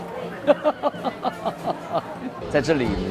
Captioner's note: laughs